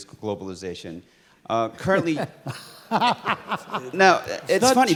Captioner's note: laugh